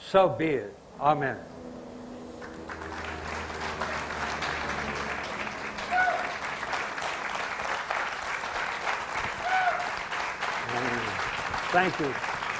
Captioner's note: audience applause